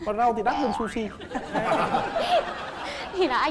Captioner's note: laughing